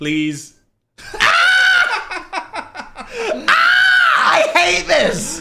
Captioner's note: shrieks and laughs